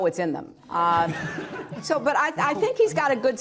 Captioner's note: laughter